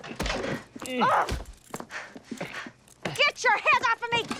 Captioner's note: grunts